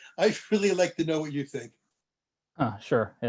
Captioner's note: laughter